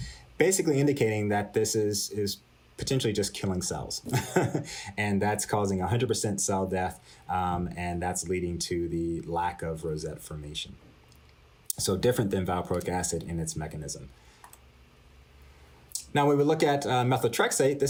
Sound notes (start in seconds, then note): 4.0 laughter